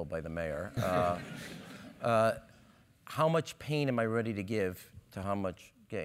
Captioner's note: laugh